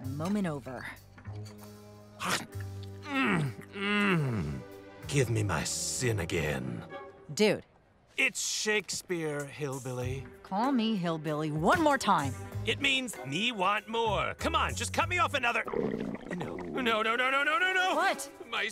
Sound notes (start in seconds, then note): 15.6 stomach gurgling